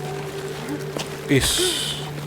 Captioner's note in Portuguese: gemido